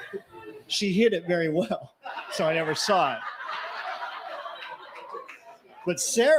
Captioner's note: laughter